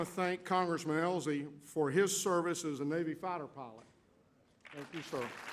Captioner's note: applause